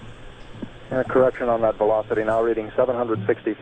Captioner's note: voiceover